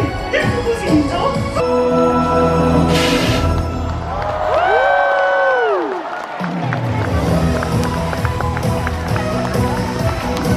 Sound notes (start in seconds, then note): 3.7 audience cheers; 6.5 upbeat music